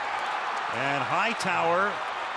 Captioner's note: cheering